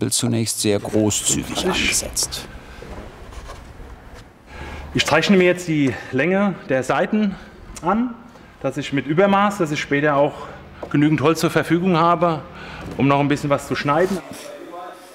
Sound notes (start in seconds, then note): none